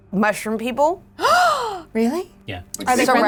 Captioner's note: Anna gasping